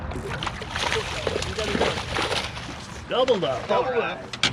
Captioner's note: fish splashing